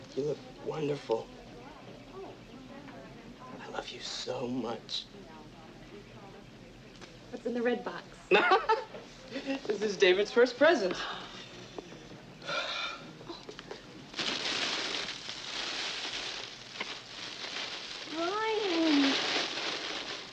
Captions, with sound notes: - You look wonderful. Oh, I love you so much. - What's in the red box? - [Brian laughs] This is David's first present. [wrapping paper crinkling] - Brian!